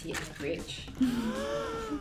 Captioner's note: gasp